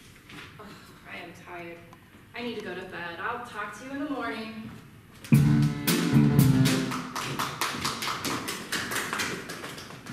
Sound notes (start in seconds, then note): 6.6 applause